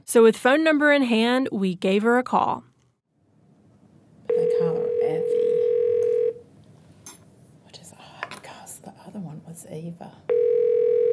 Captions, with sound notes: So with phone number in hand, we gave her a call. (phone ringing) I call her Evie. (whispering) The other one was Eva.